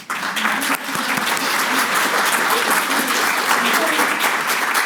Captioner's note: audience applauds